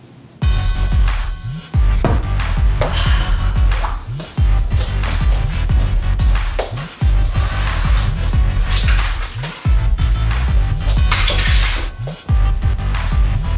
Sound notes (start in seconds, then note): 0.1 intense hip-hop music begins; 2.8 annoyed sigh